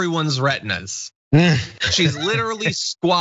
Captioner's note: laugh